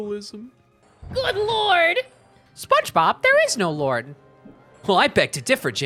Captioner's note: Spongebob voice